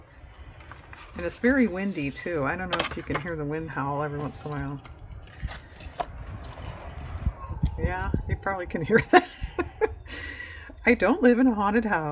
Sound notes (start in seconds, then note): 5.9 howling wind; 8.9 laughs